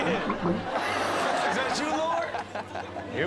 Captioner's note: audience laughs